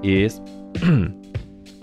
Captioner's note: cough